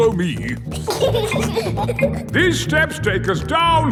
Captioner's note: giggling